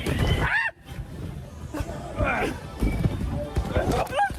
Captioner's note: screams